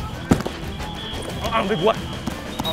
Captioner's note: players grunting; whistle blowing